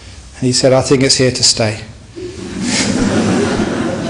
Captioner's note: laughter